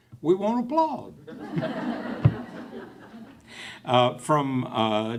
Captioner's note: laughing